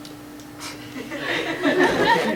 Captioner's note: laughter